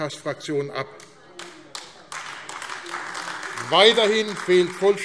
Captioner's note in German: Beifall AfD